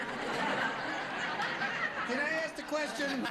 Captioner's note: audience laughing